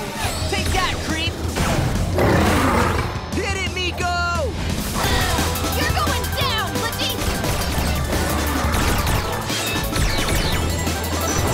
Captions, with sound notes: Take that, creep! [roars] Hit it, Miko! You're going down, glitchy! [roars]